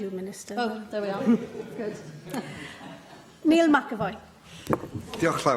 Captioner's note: laughter